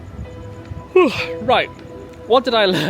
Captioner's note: yawns